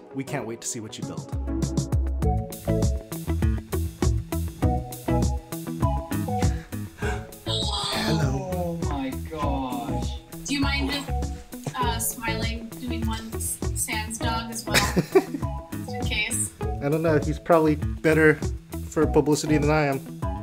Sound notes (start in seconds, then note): 7.4 voices; 14.7 laughs